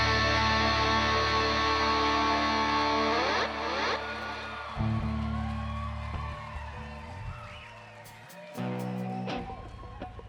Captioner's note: crowd cheers